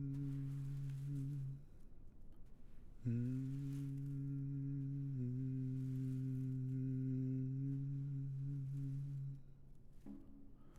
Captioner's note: humming gentle tune